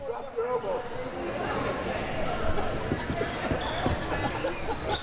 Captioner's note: audience chattering